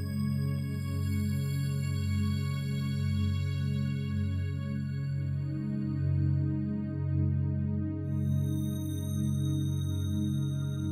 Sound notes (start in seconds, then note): none